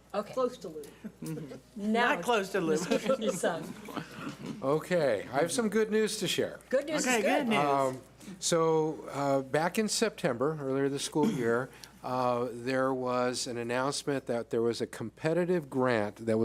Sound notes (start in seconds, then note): 2.7 laughs; 3.5 mumbles